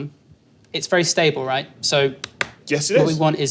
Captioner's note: claps hands